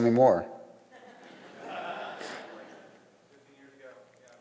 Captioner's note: audience laughs